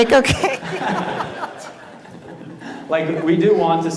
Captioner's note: laughter